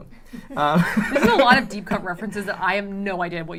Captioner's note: laughter